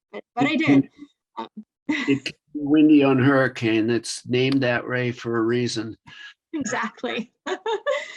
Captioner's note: laughs